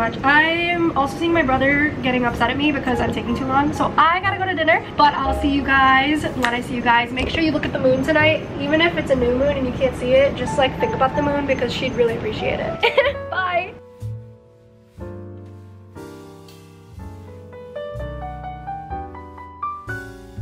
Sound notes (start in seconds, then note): 12.8 laughs; 14.2 gentle jazz music